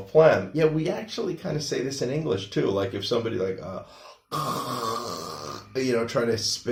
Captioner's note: clearing throat of phlegm sounds